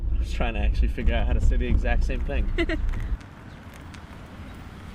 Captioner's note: laughing